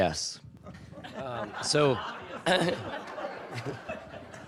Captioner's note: audience laughing